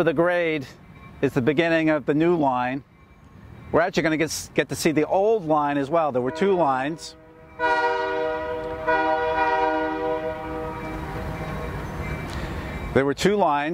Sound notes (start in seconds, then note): 9.2 train horn in distance